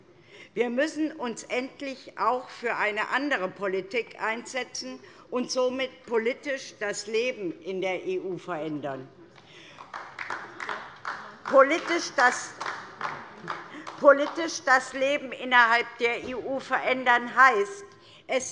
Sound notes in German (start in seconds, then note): 11.1 Beifall DIE LINKE